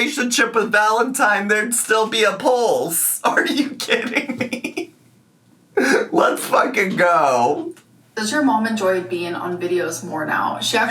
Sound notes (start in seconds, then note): 3.6 laughs